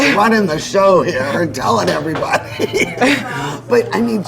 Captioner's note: laughs